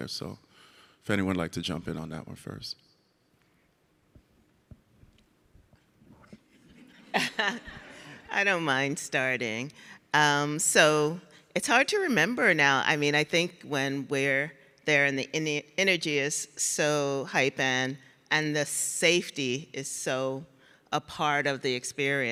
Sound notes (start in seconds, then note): 6.7 audience laughs; 6.8 laughs